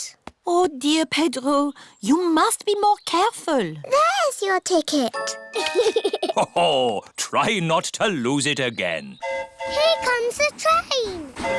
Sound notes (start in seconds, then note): 5.5 giggles; 9.2 train horn hooting